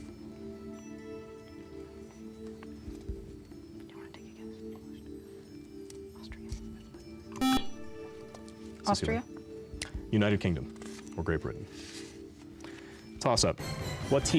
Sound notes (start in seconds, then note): 7.4 buzzer